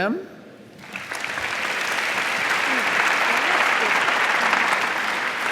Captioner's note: audience applauding